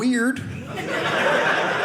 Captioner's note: audience laughing